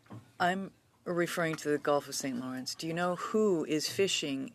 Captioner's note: speaking French